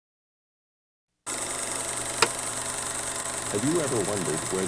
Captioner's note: projector clicking